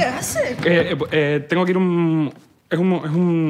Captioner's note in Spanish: habla de forma vacilante